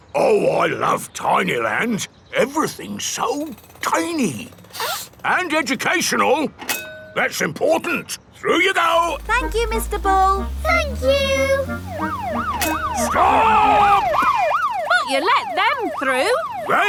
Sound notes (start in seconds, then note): 4.7 sniffs; 12.3 siren wailing